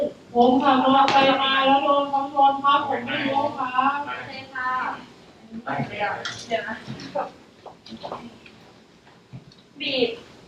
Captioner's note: simulated patient voice